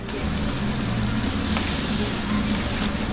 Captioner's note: sound of food sizzling